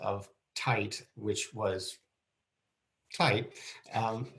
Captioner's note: laughing